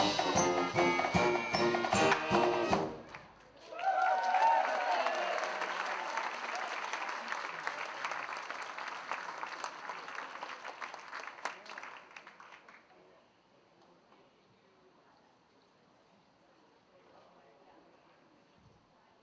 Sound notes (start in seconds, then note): 3.6 all cheering